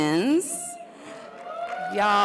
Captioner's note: audience cheers